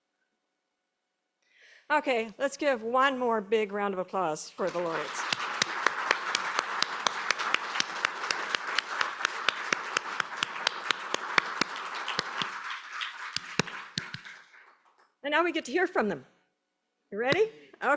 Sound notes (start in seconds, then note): 4.5 applause